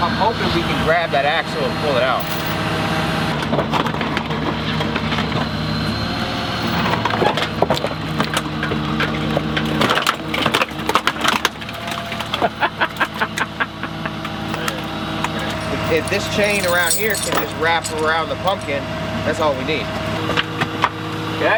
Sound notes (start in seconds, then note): 12.3 laughing